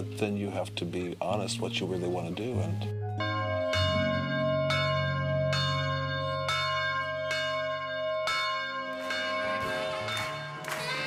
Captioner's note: bells chime